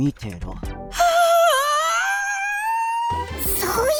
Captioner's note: aaaaaahhhhh!!!